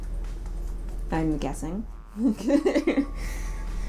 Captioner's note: laughter